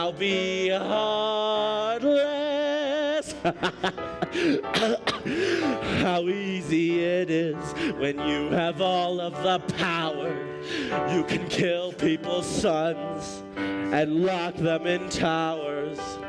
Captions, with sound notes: Be heartless! (coughing) How easy it is when you have all of the power You can kill people’s sons and lock them in towers.